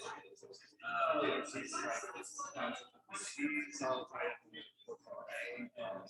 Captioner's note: people chattering indistinctly